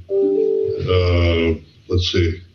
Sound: computer dings

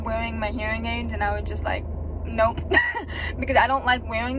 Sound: laughs

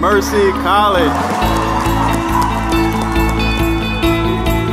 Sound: applause

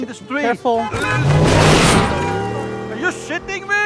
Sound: car horn honking

